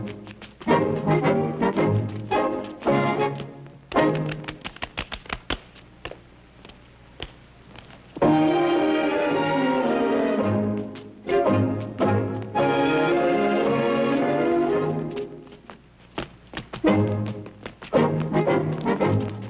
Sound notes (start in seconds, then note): 3.8 hands clap